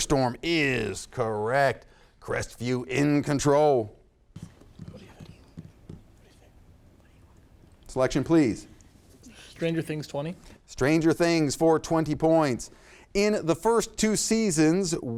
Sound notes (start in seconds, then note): 4.5 contestants whisper